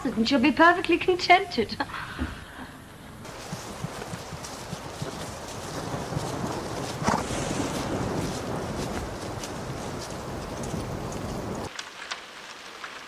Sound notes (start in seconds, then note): 3.2 rain and thunder